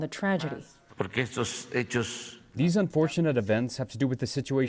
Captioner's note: through translator